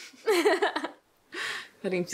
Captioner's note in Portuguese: risos